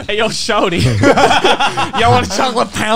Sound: laughing

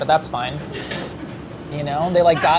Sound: laughing

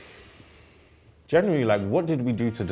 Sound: exhales

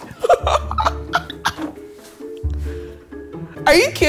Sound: laughing

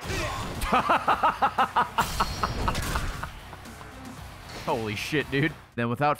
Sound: laughs

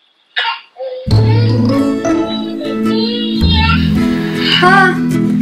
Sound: baby crying

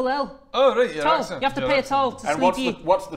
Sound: mumbles

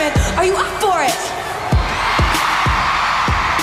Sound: cheers and applause

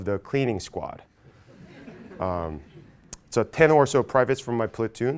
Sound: laugh

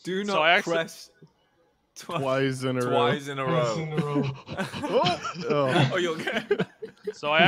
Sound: laughter

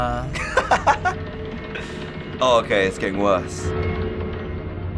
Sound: laughs

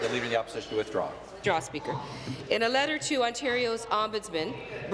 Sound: applause

